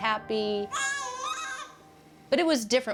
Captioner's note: cooing